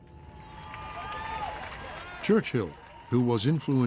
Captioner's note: crowd cheering